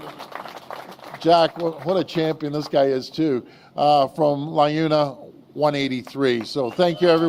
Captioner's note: applause